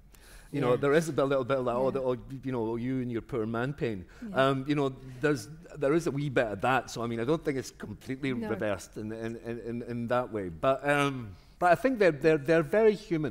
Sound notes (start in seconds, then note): none